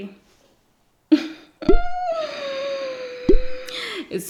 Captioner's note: giggles